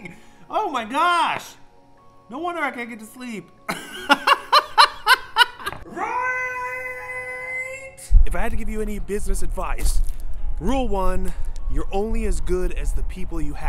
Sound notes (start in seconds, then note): 3.7 laughing